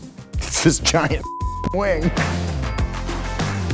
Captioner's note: beeps; funky guitar music